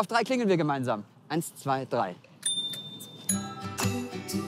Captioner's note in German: Klingelgeräusch